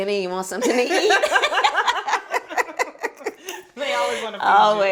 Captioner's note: women laughing